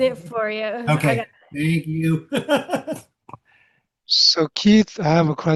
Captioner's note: laughs